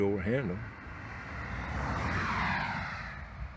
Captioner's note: car passing